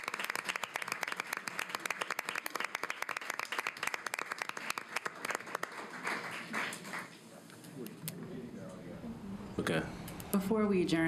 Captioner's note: applause